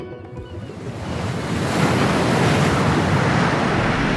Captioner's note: waves crashing